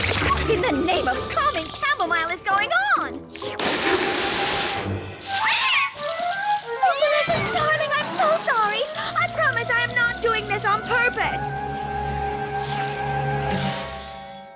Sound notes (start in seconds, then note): 0.0 splat; 3.4 slurp; 5.4 yowl; 12.6 slurp